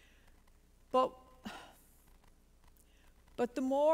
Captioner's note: sigh